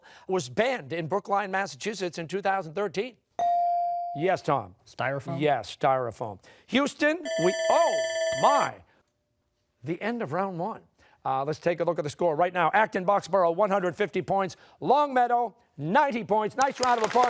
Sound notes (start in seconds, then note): 7.2 timer sounding